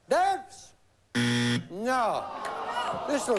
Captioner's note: buzz